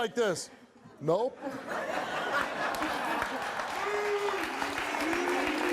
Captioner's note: audience laughs and claps